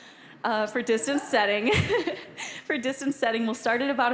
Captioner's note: all laughing